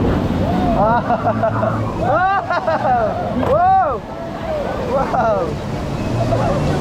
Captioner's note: general noise of squealing etc